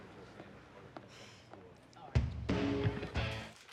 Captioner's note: sighs